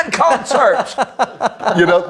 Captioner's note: laughs